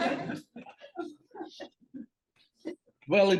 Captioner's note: laughter